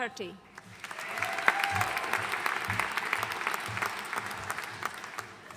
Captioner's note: audience cheering and applauding